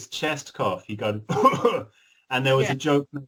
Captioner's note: coughs